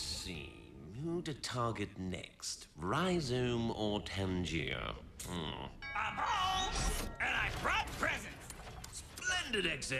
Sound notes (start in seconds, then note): 5.8 doorbell rings